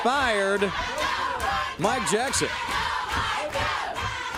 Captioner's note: crowd cheering